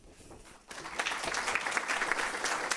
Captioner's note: applause